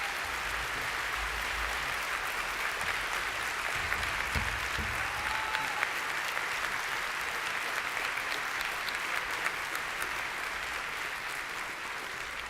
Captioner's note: applause